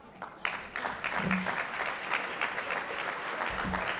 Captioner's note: audience claps